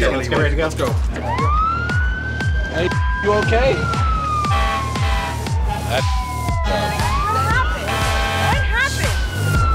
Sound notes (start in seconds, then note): 1.5 sirens; 6.9 beep